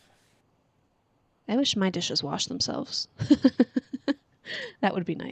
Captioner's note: laughs